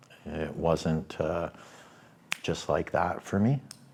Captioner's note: snaps fingers